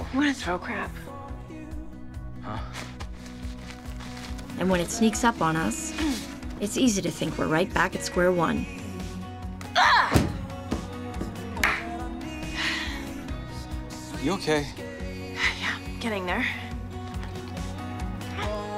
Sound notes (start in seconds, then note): 9.1 grunts; 10.1 toy slams wall; 12.5 sighs